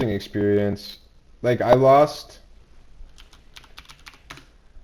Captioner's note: keyboard typing